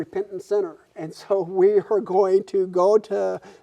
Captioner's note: laughing